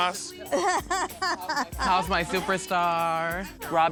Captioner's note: laughing